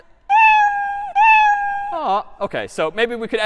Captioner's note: meowing